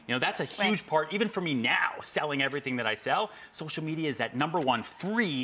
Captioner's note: none